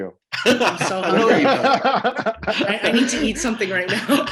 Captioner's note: laughs